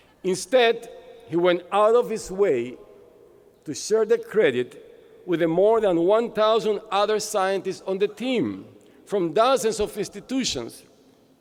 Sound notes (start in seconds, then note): none